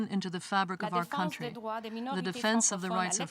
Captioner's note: speaking french